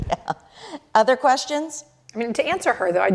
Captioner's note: laughter